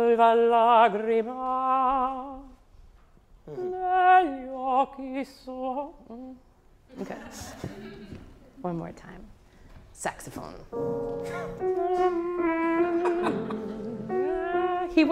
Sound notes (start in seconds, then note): 0.2 singing in foreign language; 7.0 audience laughing; 10.7 slow piano music